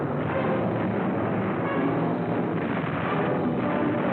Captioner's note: explosions